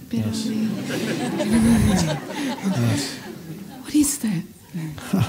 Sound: audience laughs

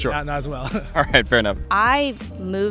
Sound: laughing

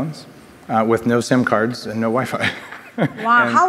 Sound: laughs

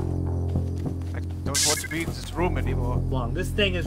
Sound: bzzt

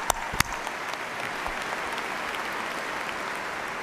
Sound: cheers and applause

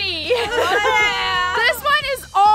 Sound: laughing

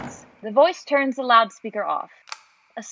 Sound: door closes; loudspeaker switch turns off

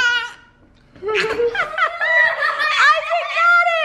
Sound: laughing

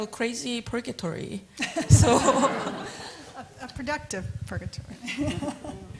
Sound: laughter

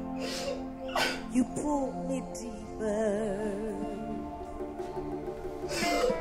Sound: Efosa sobs

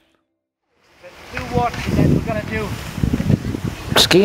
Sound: skis scraping on slope

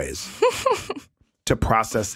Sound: laughing

